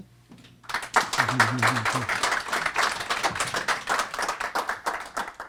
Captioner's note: applause